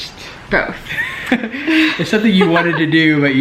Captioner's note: laughs